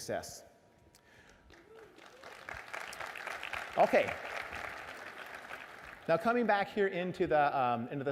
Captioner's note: applause